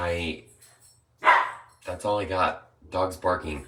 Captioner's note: dog barking